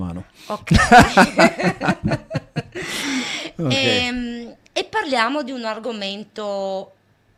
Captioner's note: laughs